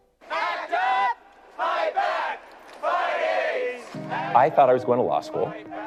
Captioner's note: crowd